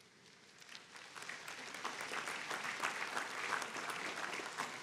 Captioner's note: audience applauding